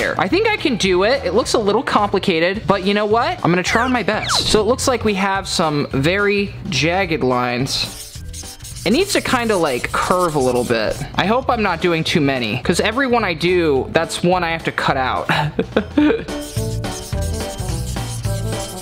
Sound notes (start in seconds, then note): 15.4 laughs; 15.8 upbeat music